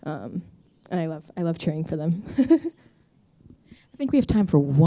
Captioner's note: chuckles